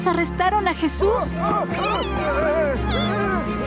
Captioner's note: shouting